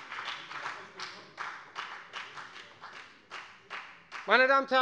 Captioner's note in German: Beifall bei der FDP